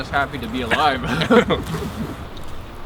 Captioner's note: all laugh